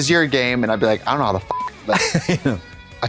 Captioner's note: beep